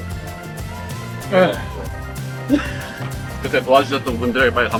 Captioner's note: sighs